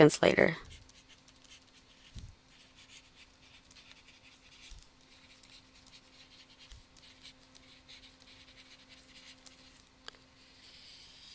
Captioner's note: writing